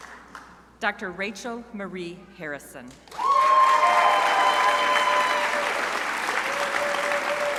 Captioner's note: crowd applauding